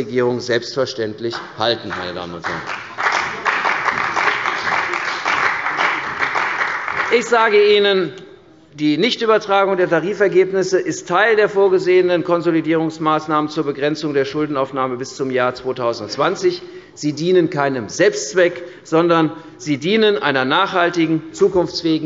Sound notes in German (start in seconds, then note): 1.3 Beifall bei der CDU und dem BÜNDNIS 90/DIE GRÜNEN